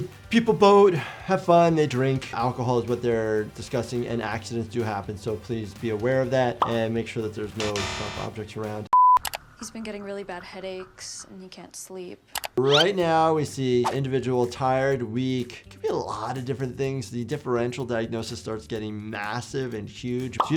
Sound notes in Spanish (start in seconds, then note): 7.6 el carrete de video emite un pitido; 12.3 clic del mouse